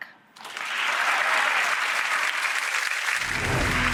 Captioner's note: audience applauds; bright music